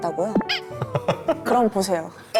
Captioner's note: failed to stop laughing